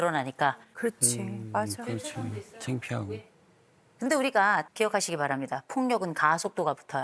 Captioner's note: coughing